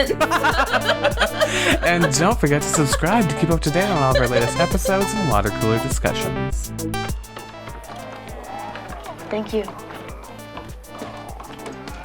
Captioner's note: laughs